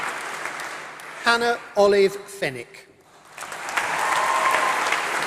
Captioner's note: applause